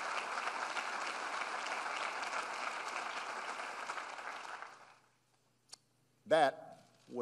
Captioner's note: applause